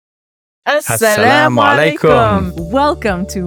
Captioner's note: both speaking non-English language